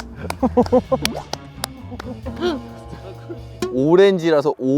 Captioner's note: A round of applause in awe of the genius